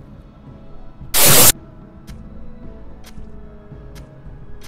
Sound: loud stabbing

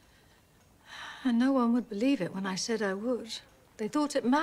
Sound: sighs

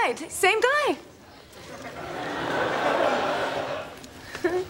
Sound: background laughter

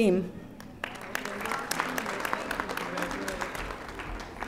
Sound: audience applauding

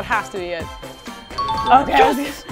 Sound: bell rings

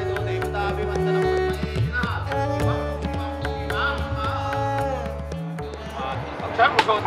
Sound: ritual chanting

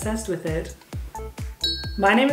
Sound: ding

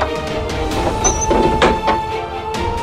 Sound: lock clattering

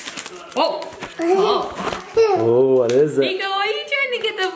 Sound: laughing

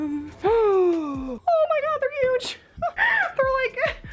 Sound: gasping

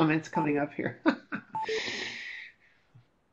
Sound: laughs

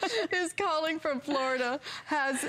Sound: laughter

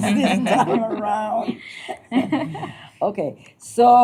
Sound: laughter

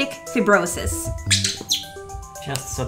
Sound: squeak!

